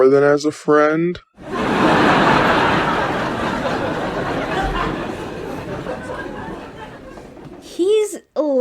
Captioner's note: audience roars